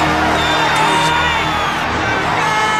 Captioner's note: cheers and applause